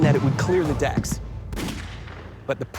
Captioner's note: gun fires